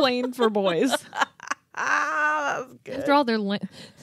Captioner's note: laughing